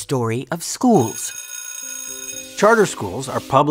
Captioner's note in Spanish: timbre de escuela sonando